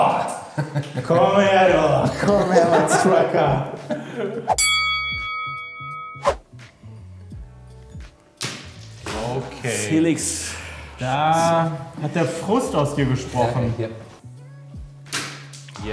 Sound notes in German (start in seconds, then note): 4.6 Boxring-Glocke